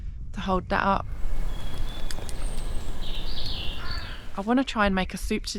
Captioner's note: birdsong